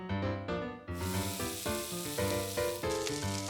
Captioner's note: sizzling